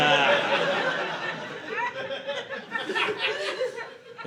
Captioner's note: audience laughing